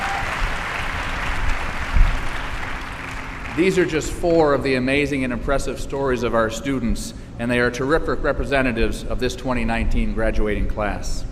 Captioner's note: applause